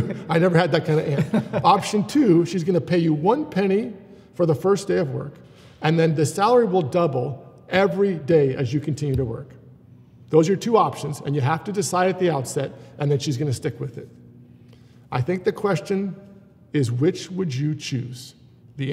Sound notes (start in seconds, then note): 0.7 laughs